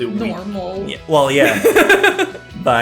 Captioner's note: laughter